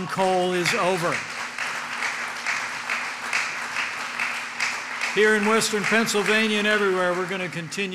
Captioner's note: applause